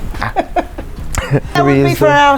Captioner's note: chuckling